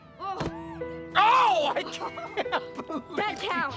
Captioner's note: laughing